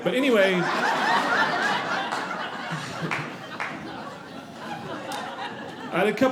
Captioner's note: audience laughing